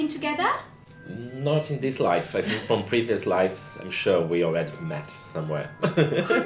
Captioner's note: rire